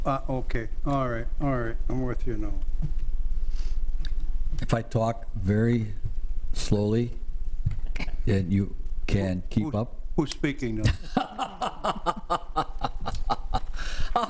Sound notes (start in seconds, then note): 10.8 laughs